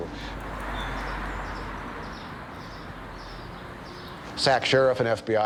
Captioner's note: birds chirping